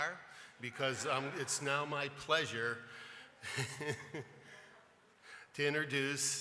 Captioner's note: chuckles